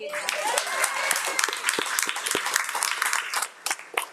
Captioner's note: audience cheering